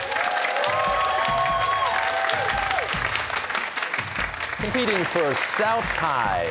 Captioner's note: cheers and applause